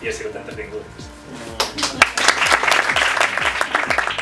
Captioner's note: applause